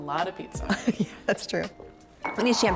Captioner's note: chuckles